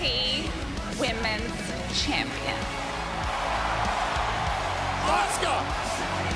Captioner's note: crowd cheering